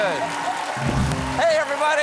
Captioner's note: applause